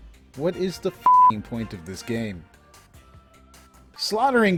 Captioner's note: beep